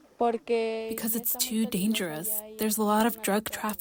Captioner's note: through translator